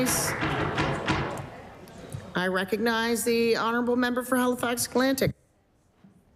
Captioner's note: applause